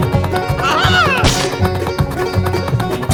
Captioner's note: splatter!